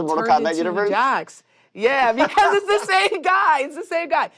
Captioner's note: laughs